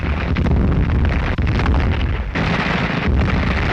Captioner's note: continuous gunfire